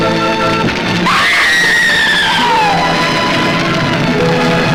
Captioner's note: Diana screams